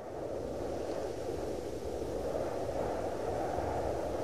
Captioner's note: wind howling